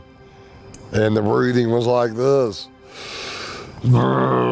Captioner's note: imitating grunting